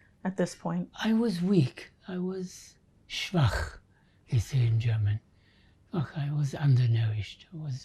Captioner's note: german